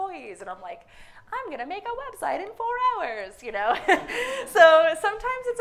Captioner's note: laughs